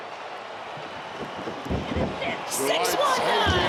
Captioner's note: crowd clamoring